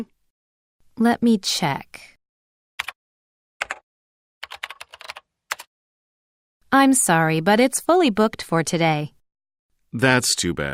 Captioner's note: typing sound